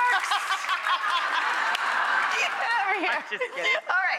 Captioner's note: audience laughing